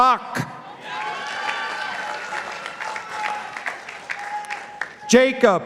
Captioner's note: participants applauding